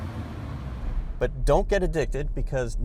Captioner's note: car screeching